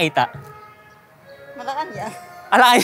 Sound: laughs

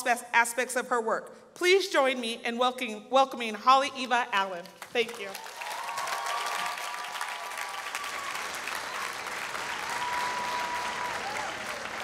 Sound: applause

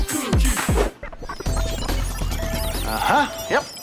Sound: beeping

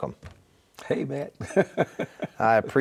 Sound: laughing

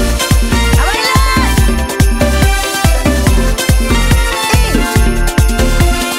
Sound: upbeat festive music; vocalist speaking in Spanish; upbeat festive music

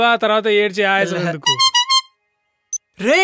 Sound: message tone

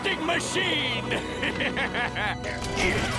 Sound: laughing

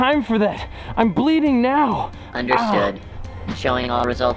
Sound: digital voice

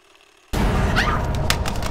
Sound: screams

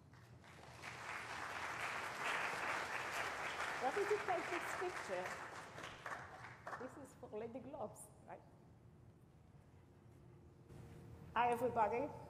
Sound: applause

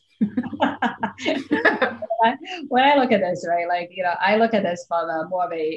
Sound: laughs

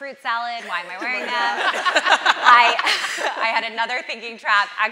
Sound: audience laughing

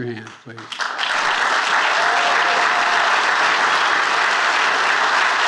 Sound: attendees applauding

